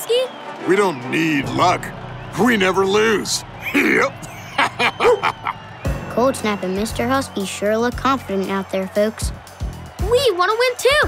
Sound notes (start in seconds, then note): 3.6 laughing